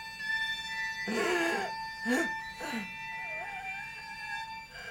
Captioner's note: heavy breathing